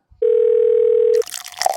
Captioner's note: phone rings; coffee pours